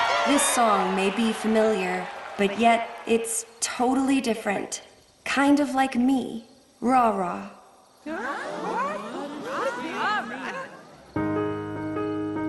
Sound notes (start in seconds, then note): 8.0 confused chattering